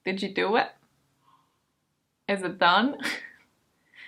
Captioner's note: laughs